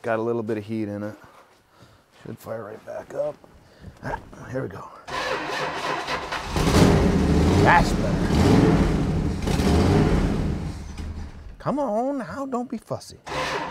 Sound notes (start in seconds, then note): 5.1 ignition stutters; 5.1 engine purrs; 10.6 engine quits; 13.3 ignition stutters; 13.5 engine purrs